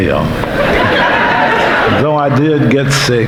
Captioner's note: audience laughing